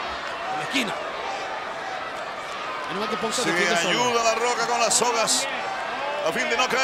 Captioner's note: applause